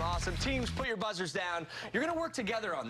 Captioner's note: cheers and applause